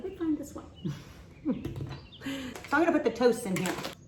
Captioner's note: chuckles